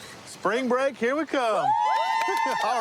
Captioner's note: cheering